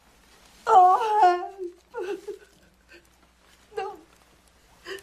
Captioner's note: woman cries